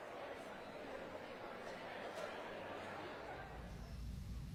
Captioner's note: chatter